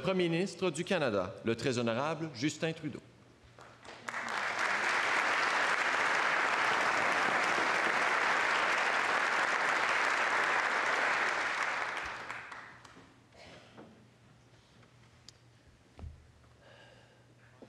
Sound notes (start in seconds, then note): 3.3 speaking French; 9.0 applause